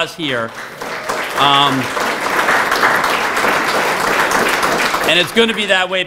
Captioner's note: applause